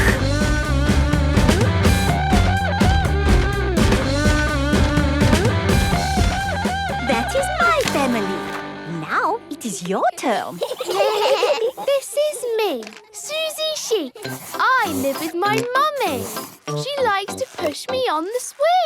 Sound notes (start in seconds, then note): 0.2 upbeat rock music; 10.3 children giggling